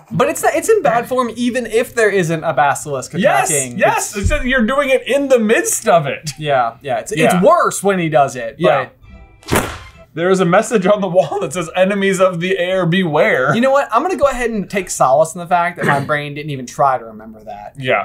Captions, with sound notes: But it's not- It's in bad form even if there isn't a basilisk attacking- Yes! Yes! It's just, you're doing it in the midst of it! Yeah, yeah. It's worse when he does it, but... [THWAP] There is a message on the wall that says "Enemies of the Heir Beware". You know what, I'm going to go ahead and take solace in the fact that my brain didn't even try to remember that. Yeah.